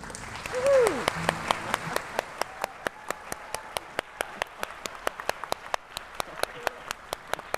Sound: applause and Clapping

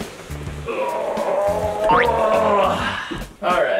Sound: grunting

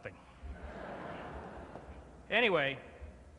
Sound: laughter

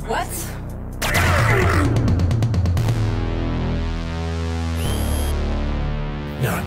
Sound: ominous synth music; laser zaps

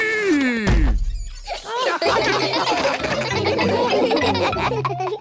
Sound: all laugh

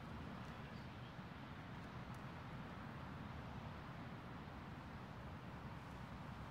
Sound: whispering

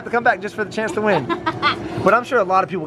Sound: laughs

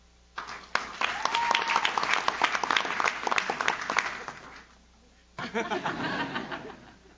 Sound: audience claps; audience cheers; audience laughs

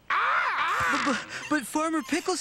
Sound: cawing

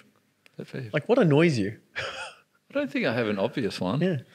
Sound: laughs

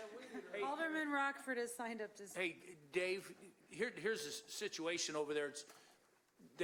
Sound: laughter

